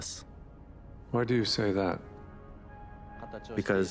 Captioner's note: voiceover